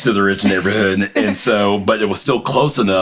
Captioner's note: laughs